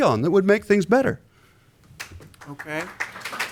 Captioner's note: applause